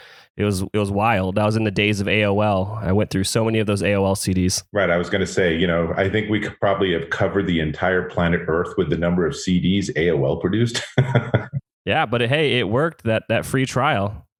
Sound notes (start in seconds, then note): 10.7 laughs